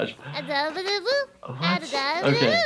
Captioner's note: baby babbling